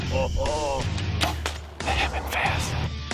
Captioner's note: arrow firing